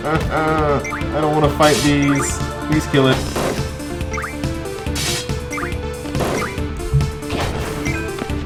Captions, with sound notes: [whines pathetically] I don't want to fight these. Please kill it.